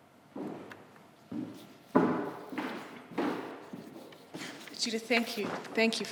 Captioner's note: footsteps tapping